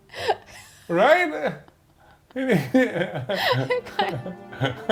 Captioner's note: both laughing